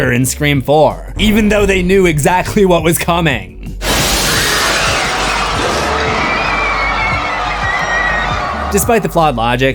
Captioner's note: screams